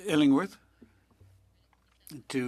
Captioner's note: speaking French